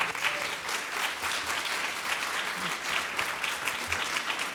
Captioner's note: audience applauds